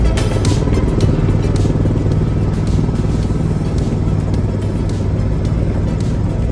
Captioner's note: helicopter engine and propellor sounds; quiet upbeat music